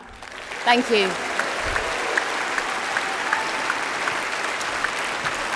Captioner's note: applause